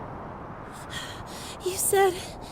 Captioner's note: panting